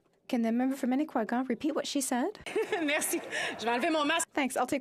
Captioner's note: speaking French